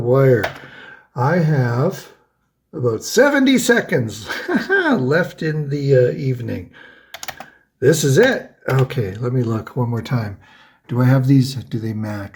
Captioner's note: ha ha!